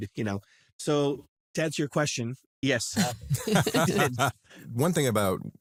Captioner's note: laugh